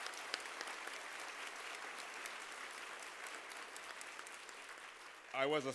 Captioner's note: applause